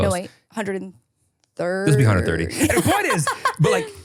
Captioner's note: laughs